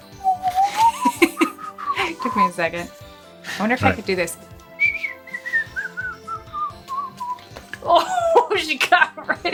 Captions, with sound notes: - (chuckles) It took me a second. I wonder if I could do this. (whistling)